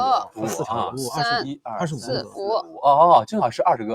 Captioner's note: laughs; laughs